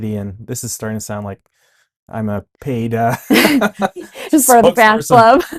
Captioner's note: both laughing